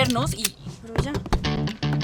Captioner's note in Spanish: golpes